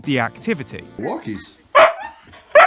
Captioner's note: Huskie starts barking